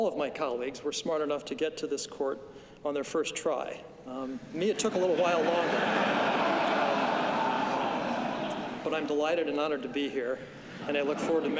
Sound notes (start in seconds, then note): 7.4 laughter